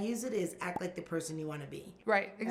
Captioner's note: bubble pops